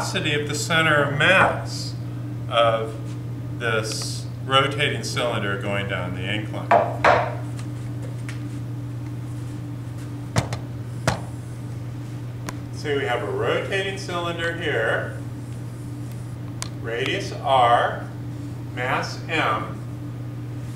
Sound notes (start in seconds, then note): 6.7 wooden thunk-thunk, no speech detected